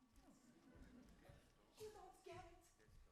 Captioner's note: audience laughs